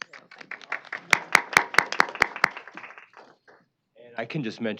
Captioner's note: applause